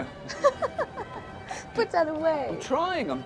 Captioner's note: laughing